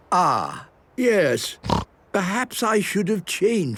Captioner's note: snorting